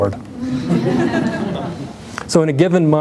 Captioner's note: laughter